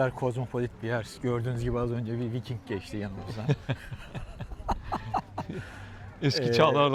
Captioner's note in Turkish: kahkaha